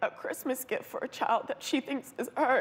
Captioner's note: voice breaking